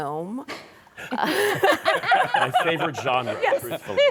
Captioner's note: laughter